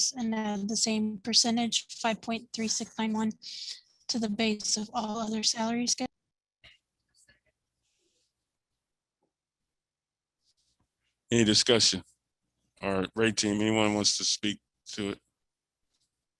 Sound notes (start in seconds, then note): 7.3 speaking faintly